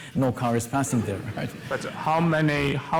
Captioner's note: laughter